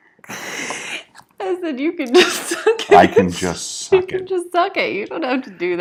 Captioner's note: laughing